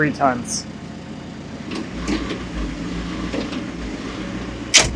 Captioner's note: telehandler whirring